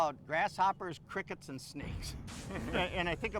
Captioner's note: dramatic sizzling